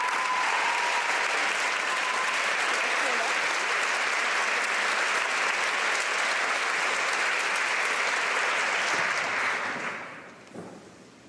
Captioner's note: applause